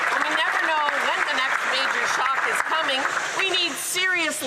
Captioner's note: some Applause